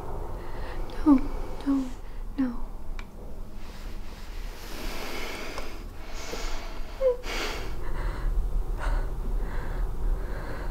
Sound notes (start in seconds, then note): 5.8 Sicily whimpering